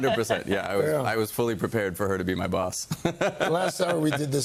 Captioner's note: laughter